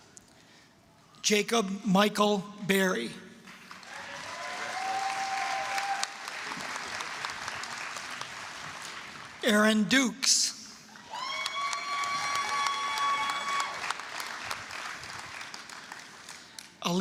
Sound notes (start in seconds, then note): 6.9 applause; 10.9 applause, cheering